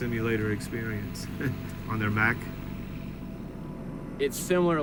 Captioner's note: chuckles